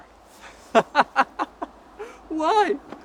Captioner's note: laughs